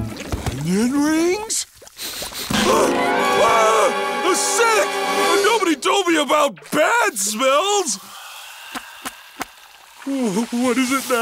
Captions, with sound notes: Onion rings? [sniffing] [screaming] The scent! Nobody told me about bad smells! What is it now?